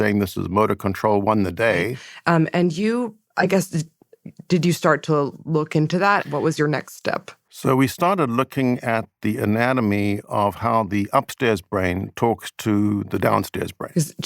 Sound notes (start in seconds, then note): none